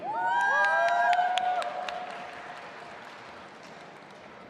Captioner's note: audience applauding